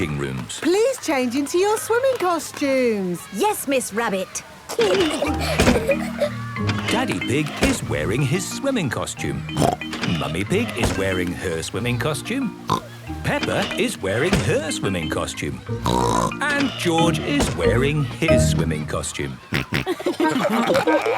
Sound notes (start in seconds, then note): 4.7 giggling; 9.5 snorts; 12.6 snorts; 15.8 snorts; 19.4 snorting, giggling